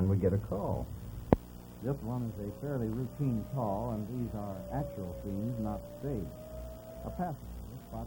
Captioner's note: siren in background